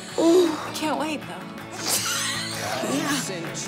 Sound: laughs

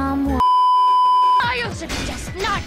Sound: Kaecilius, distantly

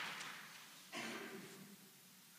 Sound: applause

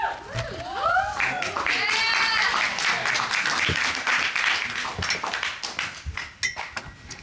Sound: audience cheers and applauds

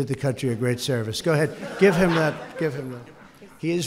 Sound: laughter

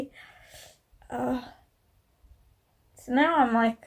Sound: resigned oh sigh

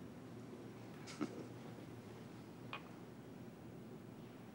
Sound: chuckles

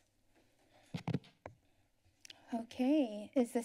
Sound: thump

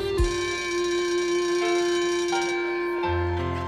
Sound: mellow guitar music; school bell rings; mellow music

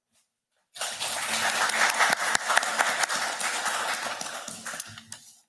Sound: audience applauding

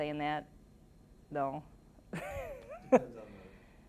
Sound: laughing

